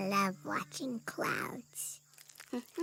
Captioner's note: humming